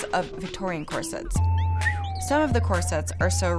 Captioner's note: whistling